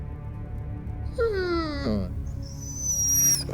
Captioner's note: Lana whining quietly; gentle orchestral music